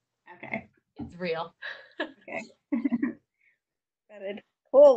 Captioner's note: laughter